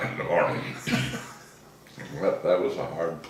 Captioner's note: laughing